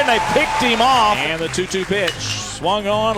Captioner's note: voiceover